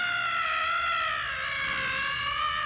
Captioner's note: screaming